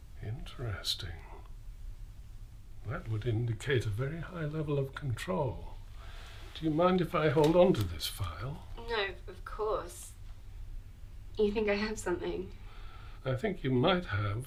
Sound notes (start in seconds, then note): none